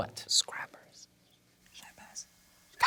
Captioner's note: whispers